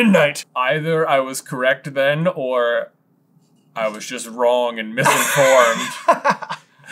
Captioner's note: laughter